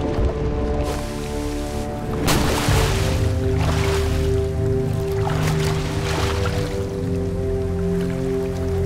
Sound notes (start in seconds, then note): 0.8 splashing